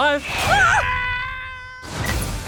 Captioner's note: screams travel away